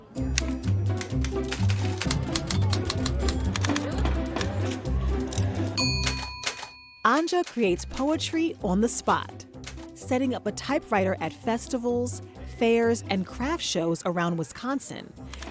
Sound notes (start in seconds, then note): 5.8 end-of-line ding